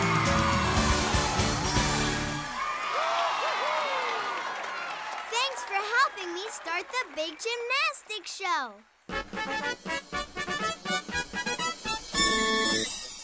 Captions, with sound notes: [cheering] Thanks for helping me start the big gymnastics show! [trumpet playing]